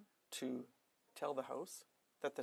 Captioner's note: speaking french